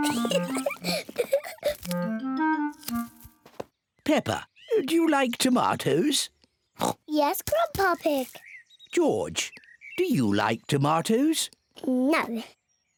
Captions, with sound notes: (GIGGLES) Peppa, do you like tomatoes? (OINKS) Yes, Grandpa Pig. -George, do you like tomatoes? -No.